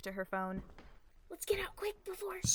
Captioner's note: ominous footsteps